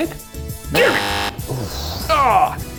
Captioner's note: buzzer blaring